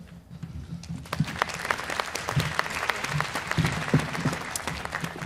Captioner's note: applause